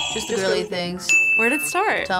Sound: buzzer rings; bell rings

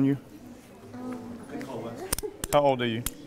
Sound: laughs

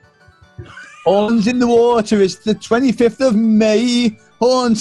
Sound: laughing

